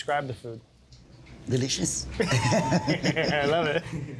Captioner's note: all laughing